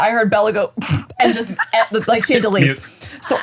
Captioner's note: stifles laugh